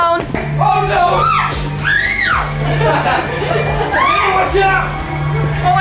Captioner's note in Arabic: صراخ وصراخ غير واضح